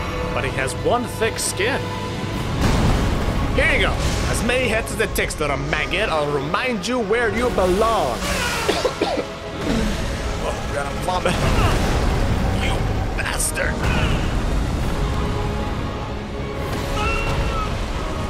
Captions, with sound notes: but he has one thick skin! Here you go! As many hits as it takes, little maggot. I’ll remind you where you belong! *trademarked double cough* *wheezing* Oh, I’m gonna vomit. You bastard!